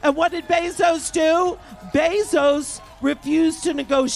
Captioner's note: cheers and applause